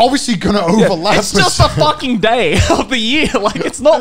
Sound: laughs

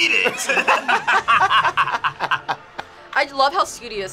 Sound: both laugh

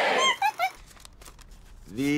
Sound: monkey squeaking

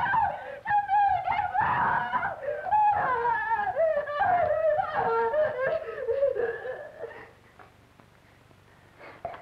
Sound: screams and cries; screams stop

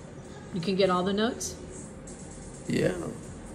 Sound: female voice

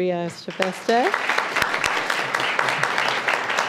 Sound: applause

